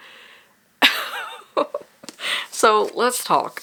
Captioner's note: laughs